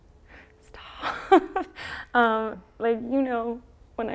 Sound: whispers; laughs

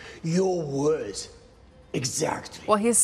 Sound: none

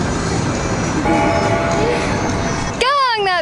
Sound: bell ringing

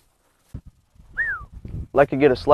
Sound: whistles

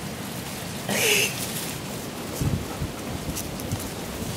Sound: laughs

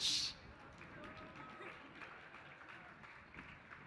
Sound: applause

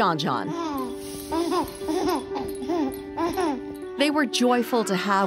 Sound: laughing

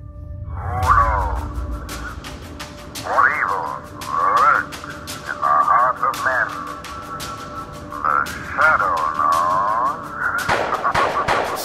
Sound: maniacal laughter and gun shots

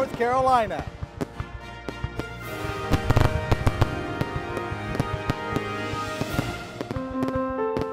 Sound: fireworks exploding

